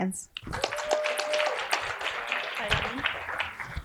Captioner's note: applause